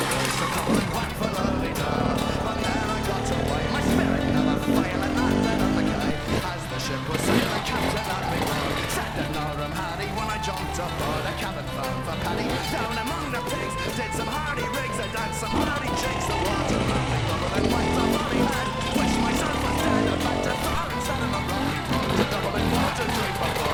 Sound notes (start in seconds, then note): 4.1 engine revving